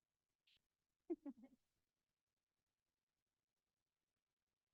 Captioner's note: crowd laughing